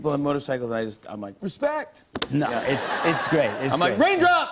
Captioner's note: laughter